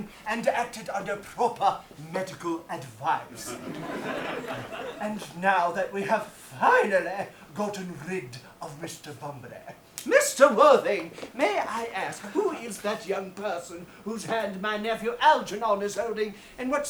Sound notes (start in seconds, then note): 3.3 audience laughs